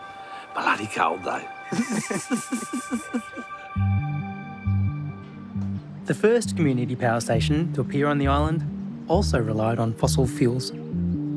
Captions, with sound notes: Bloody cold though. (LAUGHTER) The first community power station to appear on the island also relied on fossil fuels.